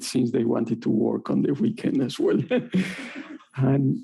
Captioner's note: audience laughing